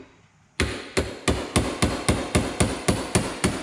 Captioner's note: hammer pounding